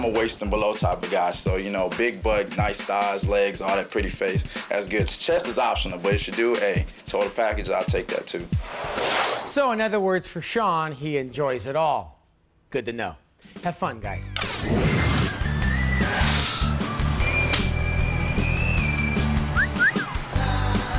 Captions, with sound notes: - I'm a waist and below type of guy, so you know big butt, nice thighs, legs all that, pretty face that's good. Chest is optional, but if she do, hey total package, I'll take that too. - So in other words for Sean, he enjoys it all. Good to know. Have fun guys. (upbeat music) (whistling)